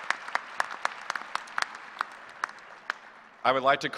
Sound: applause

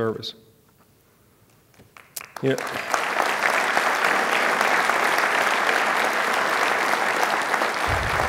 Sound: applause

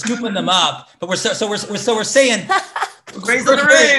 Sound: laughs

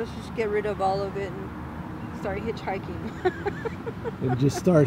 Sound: laughs

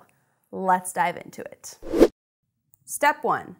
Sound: air rushes

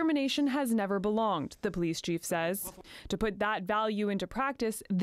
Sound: speaking French

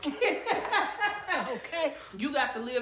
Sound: laughs

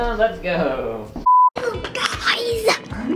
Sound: beep

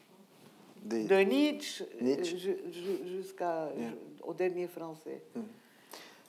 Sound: speaking in foreign language

